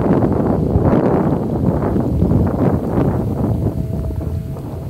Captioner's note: wind was blowing hard